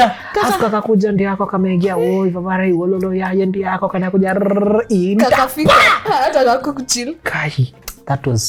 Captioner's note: reciting